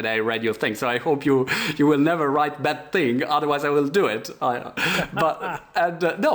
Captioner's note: laughter